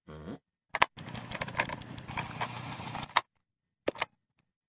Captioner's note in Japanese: ガチャ、カチャ。キュルル、ガチャ